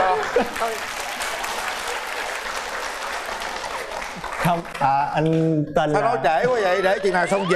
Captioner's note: applause